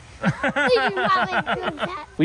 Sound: dad laughing

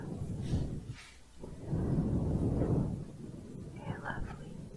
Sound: windy sounds

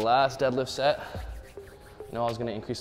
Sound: hands rubbing

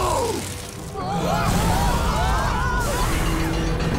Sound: screaming

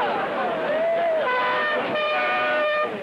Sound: all leering in Italian; horn honks

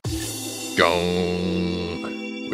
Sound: imitates the sound

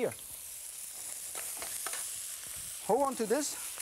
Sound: sizzles

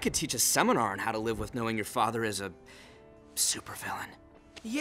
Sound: whispers

